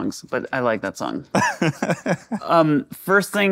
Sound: laughing

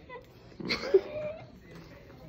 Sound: laughs

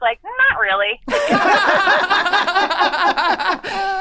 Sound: all laughing

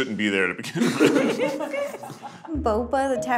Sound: group laughs

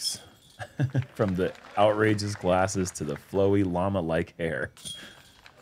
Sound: chuckles

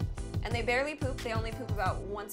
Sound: record scratches

